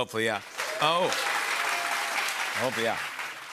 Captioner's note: cheers and applause